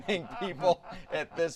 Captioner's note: laughter